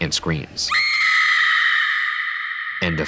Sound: woman screaming

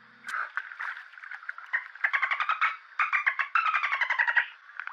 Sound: japanese Dolphin Noises

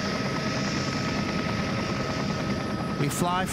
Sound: blades whirring loudly

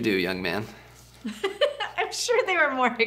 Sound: laughing

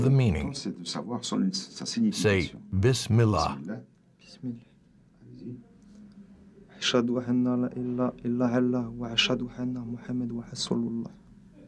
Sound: they begin to speak in Arabic

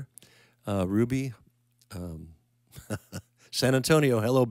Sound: chuckling

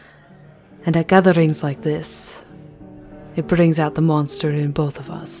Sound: none

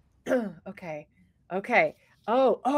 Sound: clears throat

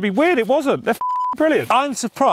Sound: beep

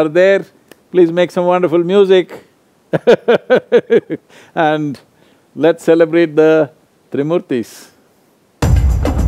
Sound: laughs

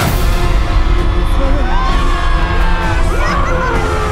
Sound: all cheering

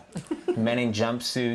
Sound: Martha laughing

